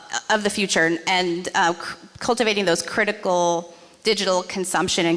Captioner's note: none